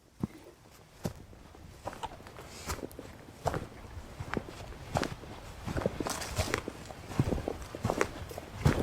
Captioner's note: sound of hiker on path